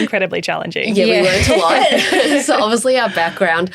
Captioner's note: chuckles